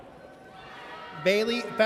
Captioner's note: audience cheers